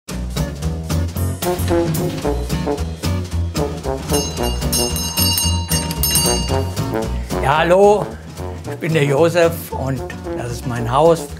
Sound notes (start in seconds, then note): 2.2 upbeat jazz music; 4.0 doorbell